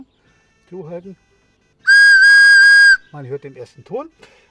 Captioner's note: whistle sound